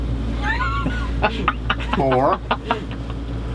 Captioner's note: laughing